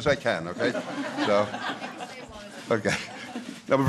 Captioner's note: laughter